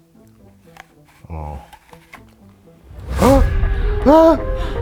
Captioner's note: gasps